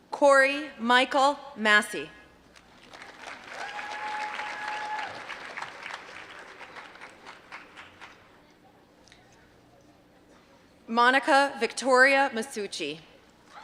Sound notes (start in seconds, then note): 7.0 applause